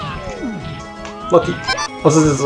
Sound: lucky sfx abruptly cut

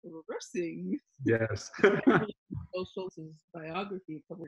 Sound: laughs

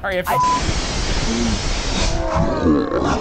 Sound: gust of wind

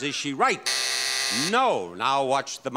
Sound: buzzing

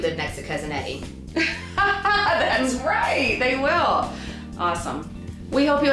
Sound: laughs

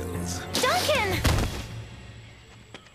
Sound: thudding

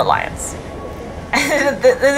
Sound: background music; chuckles

